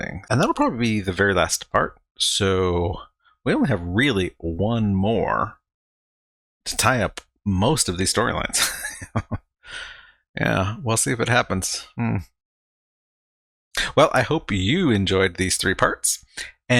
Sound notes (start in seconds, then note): 8.5 laughing